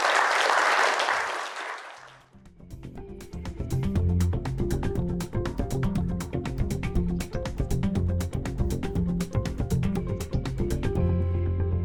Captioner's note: applause